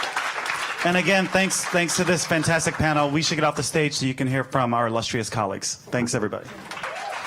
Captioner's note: applause